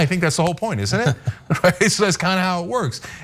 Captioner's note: laugh